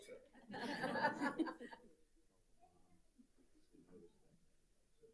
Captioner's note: audience laughing